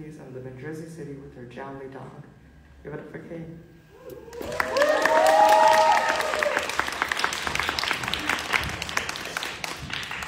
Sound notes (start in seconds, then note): 4.0 audience cheering; 4.3 audience clapping